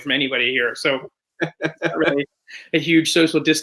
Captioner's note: chuckles